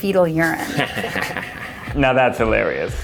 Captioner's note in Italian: risate